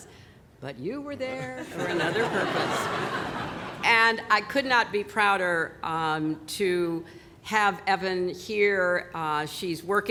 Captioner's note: laughter